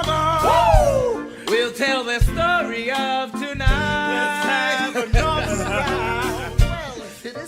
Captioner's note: laf